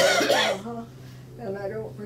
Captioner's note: coughing